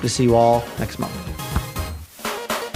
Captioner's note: bonk